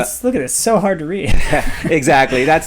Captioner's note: laughs